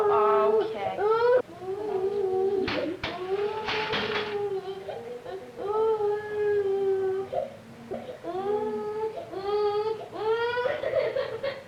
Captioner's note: crying